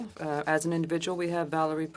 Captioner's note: speaking French